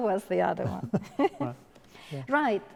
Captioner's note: laughing